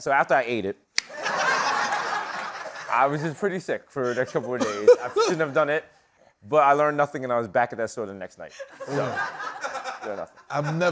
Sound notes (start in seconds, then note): 1.1 laughter